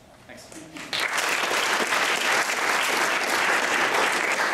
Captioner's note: applause